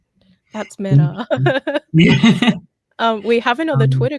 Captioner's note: laughs